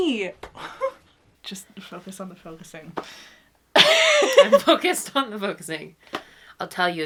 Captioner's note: laughs